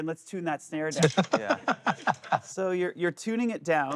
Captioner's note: laughing